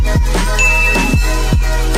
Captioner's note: ding